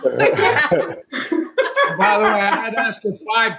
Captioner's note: laughter